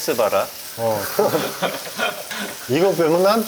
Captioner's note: chuckle